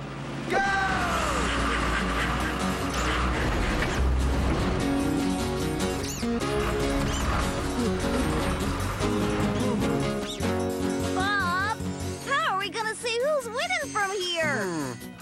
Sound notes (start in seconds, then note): 7.9 Travis panting